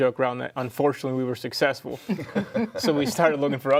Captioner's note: group laughs